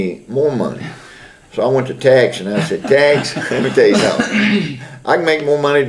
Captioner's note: laughter